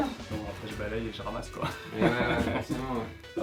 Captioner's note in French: rires